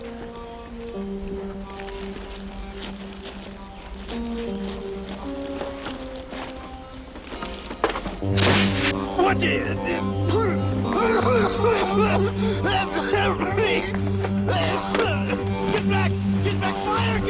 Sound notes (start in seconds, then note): 10.4 coughing